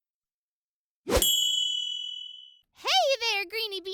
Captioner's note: ding